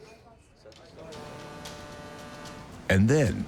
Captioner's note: ship horn honking